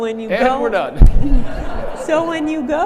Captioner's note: audience laughing